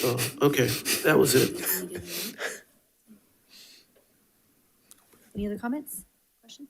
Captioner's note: board member laughing